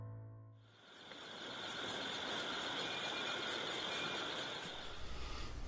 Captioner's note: crickets